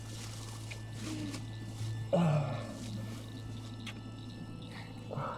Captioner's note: both moan